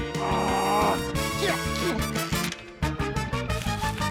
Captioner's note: grunts; strains